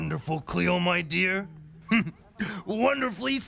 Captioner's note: chuckles